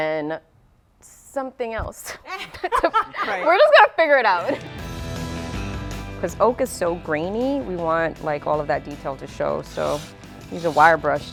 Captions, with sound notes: - And then something else. (laughs) We're just going to figure it out. (upbeat music) This oak is so grainy we want like all of that detail to show, so use a wire brush